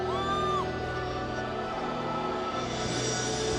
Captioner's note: crowd cheers